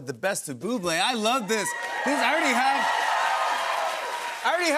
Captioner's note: cheers and applause